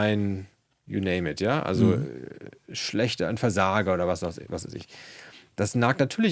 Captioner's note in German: räuspern